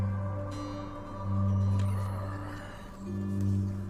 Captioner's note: sighs